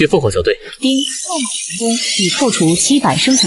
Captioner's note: ding!